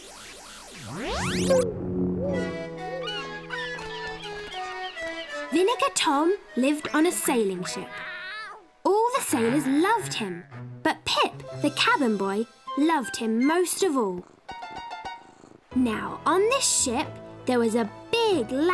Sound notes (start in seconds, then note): 0.0 space sounds; 2.2 birds chirping; 4.6 pirate music; 7.6 meows